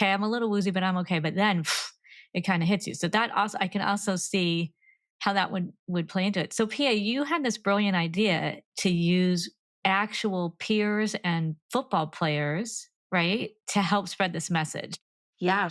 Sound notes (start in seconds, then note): 1.7 gasps